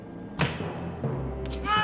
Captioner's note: dramatic music; whack